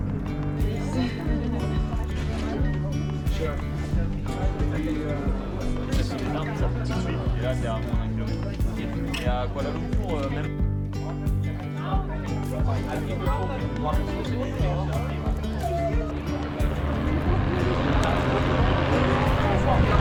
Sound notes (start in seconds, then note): 0.0 instrumental music; 3.3 scooter roaring; 8.8 laughs